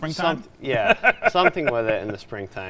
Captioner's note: chuckling